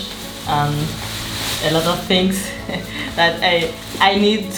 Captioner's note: foreign language; plastic bag crinkles